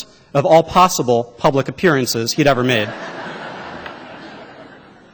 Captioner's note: laughter